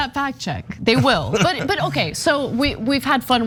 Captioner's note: laugh